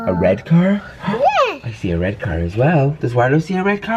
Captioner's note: gasp